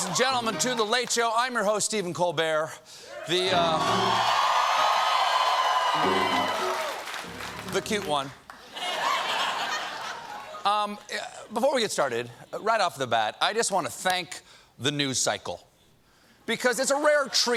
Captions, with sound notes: WELCOME, LADIES AND GENTLEMEN, TO "THE LATE SHOW." I'M YOUR HOST, STEPHEN COLBERT. ( CHEERS AND APPLAUSE ) THE CUTE ONE. ( LAUGHTER ) BEFORE WE GET STARTED, RIGHT OFF THE BAT, I JUST WANT TO THANK THE NEWS CYCLE.